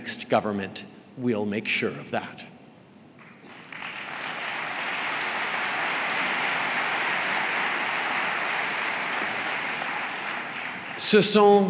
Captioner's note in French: Applaudissements